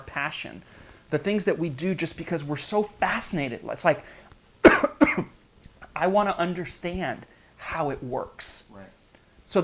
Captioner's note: coughs